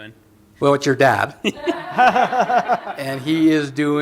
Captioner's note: laughter